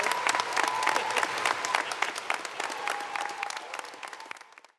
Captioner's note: audience applauding